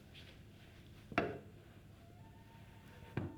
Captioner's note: none